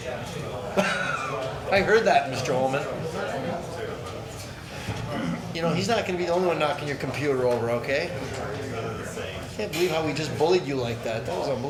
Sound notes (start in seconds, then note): 0.7 laughs; 9.0 man speaking off microphone